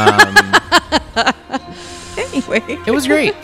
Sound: laughing; laughs

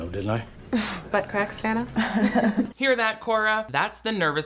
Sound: laughing

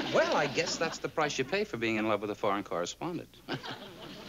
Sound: laughs

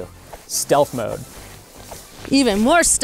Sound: jacket crinkling sound

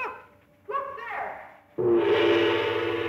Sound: loud gong

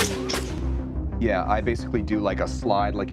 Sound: clattering

